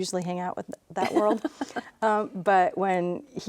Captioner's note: laughs